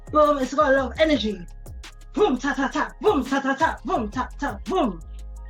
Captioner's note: sounds out choreography